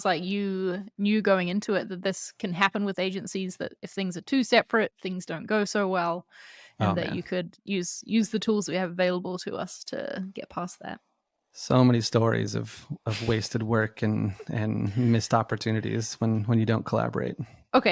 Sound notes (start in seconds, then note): 10.8 laughs